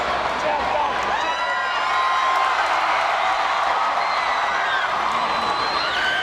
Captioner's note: spectators cheering